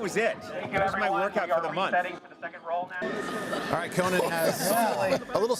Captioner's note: laughter